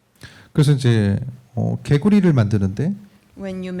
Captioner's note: speaking korean